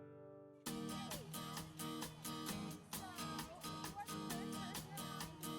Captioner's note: guitar music; kids talking